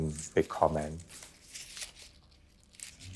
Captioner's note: rustle of leaves